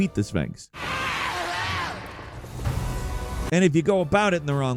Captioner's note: Sphinx screeching